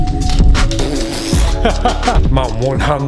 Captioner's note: blows lips; laughs